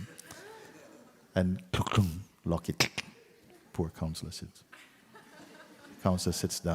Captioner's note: laughter